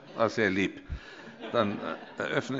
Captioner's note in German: Heiterkeit